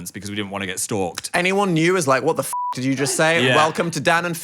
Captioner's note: beep